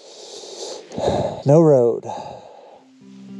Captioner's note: sighing